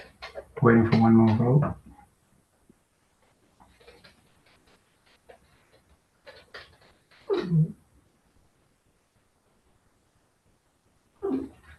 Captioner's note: pause